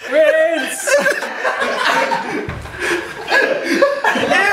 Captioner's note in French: Rires